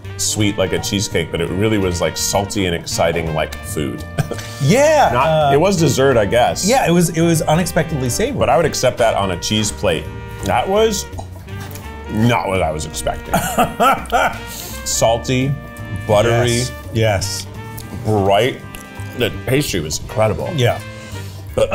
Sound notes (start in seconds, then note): 13.3 laughs